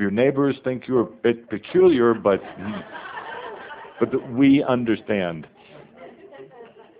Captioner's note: some laughter